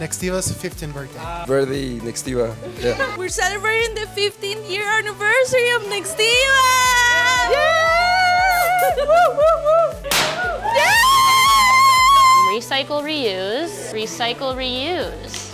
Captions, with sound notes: - Nextiva's 15th birthday. - Ah. - We're the Nextiva. Yeah. - We're celebrating the 15 year anniversary of Nextiva. - Yay! Woo, woo, woo. (noisemaker pops) Yeah! - Recycle, reuse. Recycle, reuse.